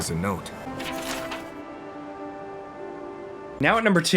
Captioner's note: note rustling